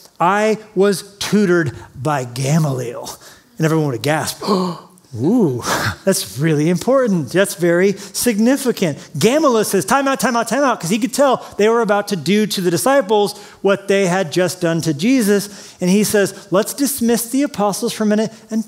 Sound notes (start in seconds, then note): 4.4 gasps